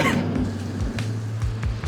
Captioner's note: chuckle